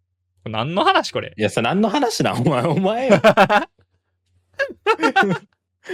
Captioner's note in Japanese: 笑い